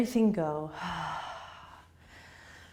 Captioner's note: exhaling